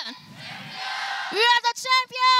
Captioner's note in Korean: 관중들